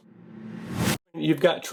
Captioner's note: logo whooshing